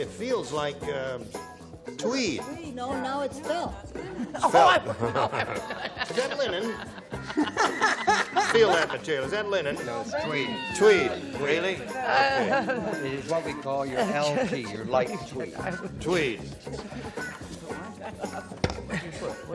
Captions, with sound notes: it feels like tweed. -No, no, it's film. -It's film. (laughs) Is that linen? (laughter) -Feel that material. Is that linen? -No, it's tweed. -Tweed. Really? Okay. -It's what we call your LT, your light tweeds. -Tweed.